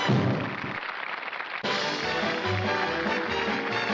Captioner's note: applause